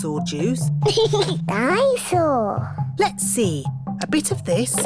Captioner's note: giggles